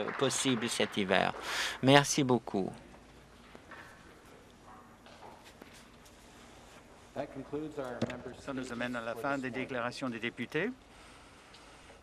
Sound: applause

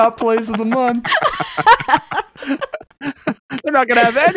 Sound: laughing

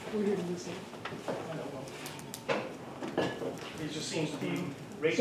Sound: faint chatter

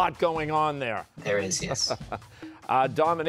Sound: chuckling

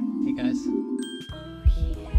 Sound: bell dinging

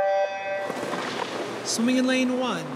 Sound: start noise

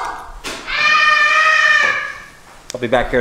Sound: yelling

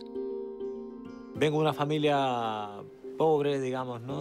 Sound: speaking Spanish

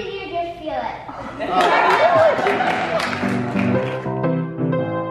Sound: group applauding

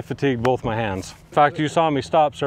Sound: hands clapping

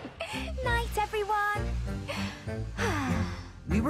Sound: Rebecca Sighs Happily

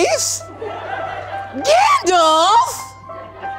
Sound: audience laughing

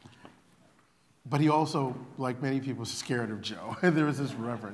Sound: laughter

